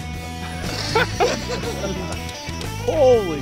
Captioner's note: laughing